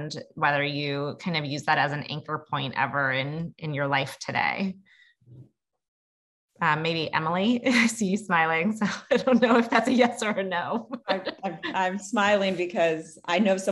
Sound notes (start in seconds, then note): 6.3 laugh; 10.7 laugh